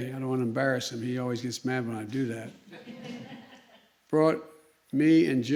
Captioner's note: laughter